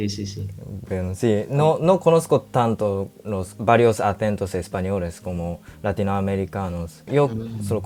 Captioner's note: Spanish